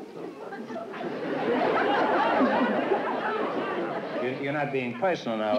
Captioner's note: laughter